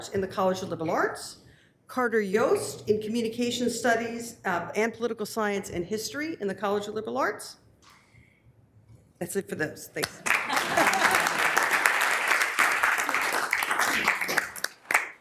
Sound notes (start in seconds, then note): 10.0 members applauding